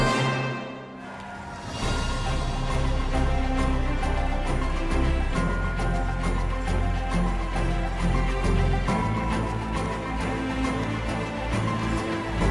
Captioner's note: เสียงปรบมือ